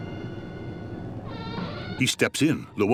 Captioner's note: creaking